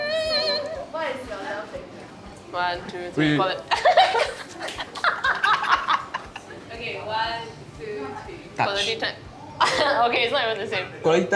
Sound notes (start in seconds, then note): 3.7 both laughs